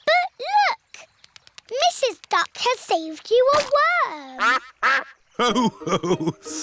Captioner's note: quacks